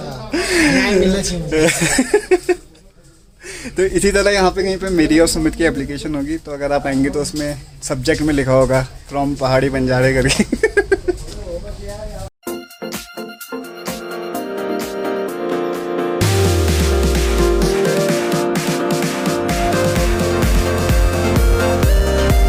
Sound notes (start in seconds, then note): 0.0 laughs; 1.5 laughs; 10.3 laughs